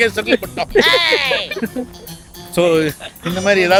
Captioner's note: laughter